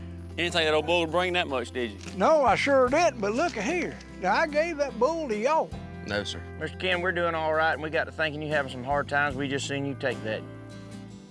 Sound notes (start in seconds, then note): none